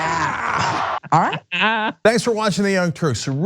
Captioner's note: laugh